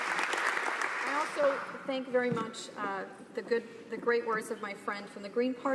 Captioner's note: applause